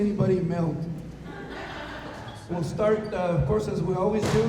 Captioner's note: laughter